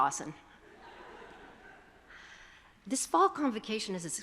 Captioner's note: attendees chuckle